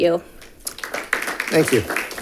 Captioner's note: audience clapping